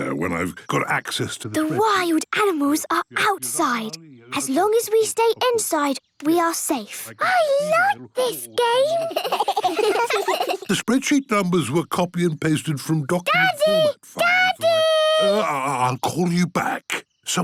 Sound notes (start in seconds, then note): 8.2 giggling